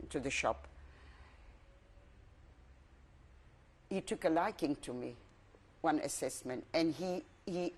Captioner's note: pauses for 3 seconds